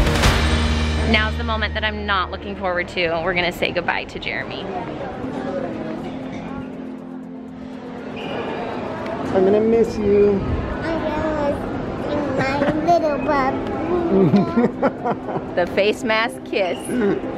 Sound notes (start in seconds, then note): 4.7 melancholy music; 14.1 laughs